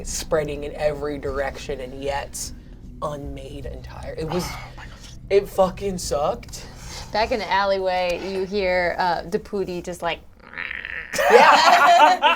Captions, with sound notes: spreading in every direction, and yet unmade entirely. It was- - Oh my god. It fucking sucked. - Back in the alleyway, you hear the Deputi just like (imitates creaking) - Yeah.